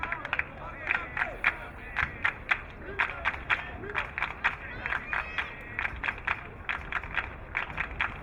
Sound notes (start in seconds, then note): 0.0 crowd clapping